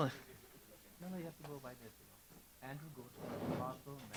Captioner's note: speaking in foreign language